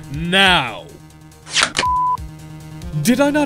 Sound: CLICK, beep

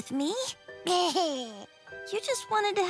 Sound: laughing

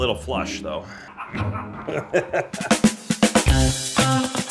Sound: laughing; upbeat music

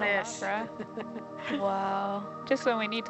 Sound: woman chuckles

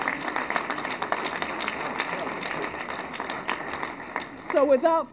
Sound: applause

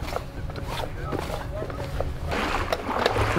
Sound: background chatter; pants scratch; water splashes

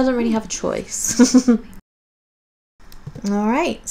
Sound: laughs

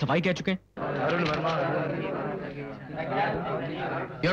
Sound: indistinct chatter

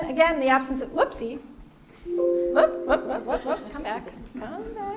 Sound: computer alert

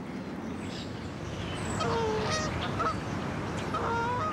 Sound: geese honk

